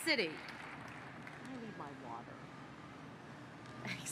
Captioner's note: applause